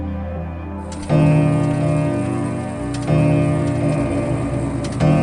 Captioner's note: gentle music; grandfather clock striking